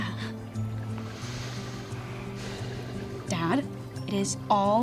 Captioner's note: sighs